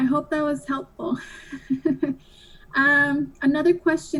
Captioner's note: laughs